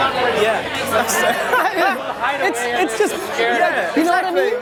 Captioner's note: laughs